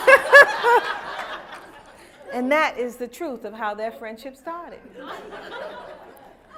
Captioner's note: laughter; laughter